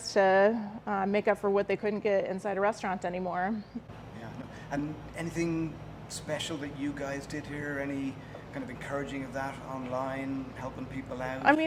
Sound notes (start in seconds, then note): none